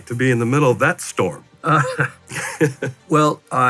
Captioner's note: laughs